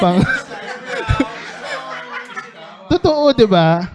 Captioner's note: laughter